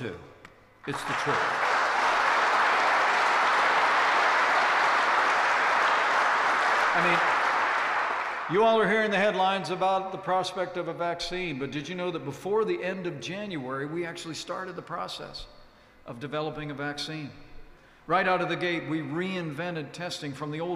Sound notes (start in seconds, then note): 4.3 applause